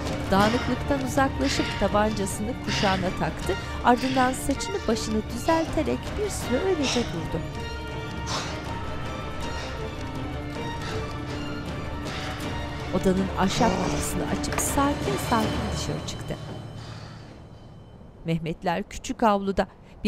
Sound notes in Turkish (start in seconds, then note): 0.2 Nefes sesi; 7.1 Müzik - Gerilim; 12.0 Nefes sesi